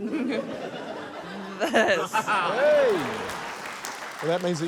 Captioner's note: laughter; laughs